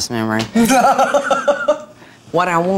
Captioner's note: laughing